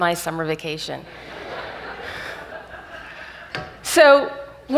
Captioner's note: audience laughs